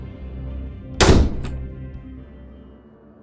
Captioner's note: door slamming